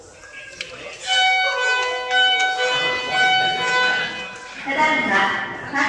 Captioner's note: signal Sound